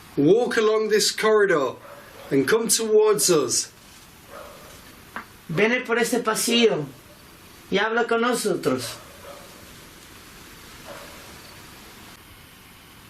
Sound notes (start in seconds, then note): 6.0 speaking in foreign language